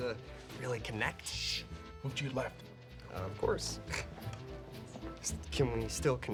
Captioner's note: snorts